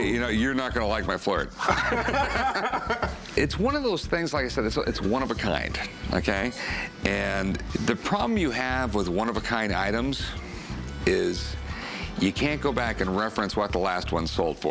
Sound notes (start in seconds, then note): 1.6 laughter